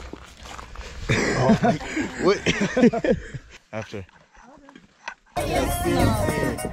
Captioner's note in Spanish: La risa